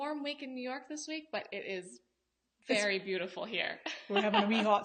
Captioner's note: laughs